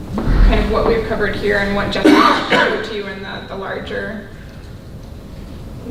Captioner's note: coughing